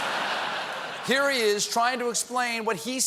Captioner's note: laughter